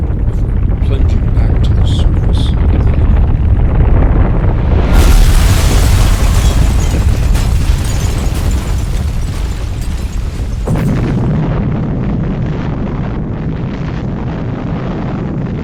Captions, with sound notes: with it plunging back to the surface of the lagoon. (bomb rumbling) (sounds of shattering)